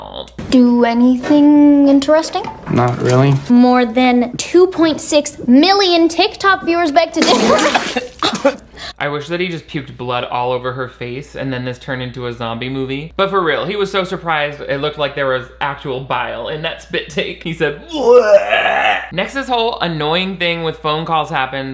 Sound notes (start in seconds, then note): 17.8 grunts